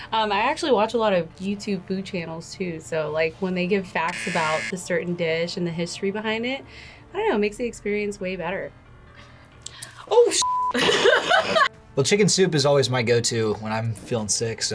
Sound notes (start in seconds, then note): 10.7 both laugh